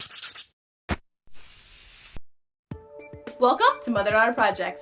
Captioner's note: whirring and spraying